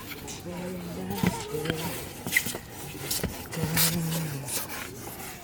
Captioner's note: humming, wax scraping